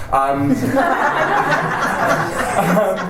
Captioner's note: laughter